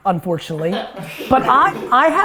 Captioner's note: laughing